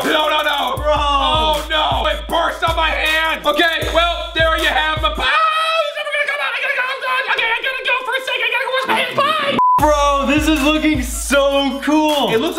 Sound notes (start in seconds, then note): 5.2 screams; 6.7 high pitched screams